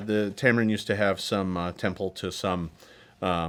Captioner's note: none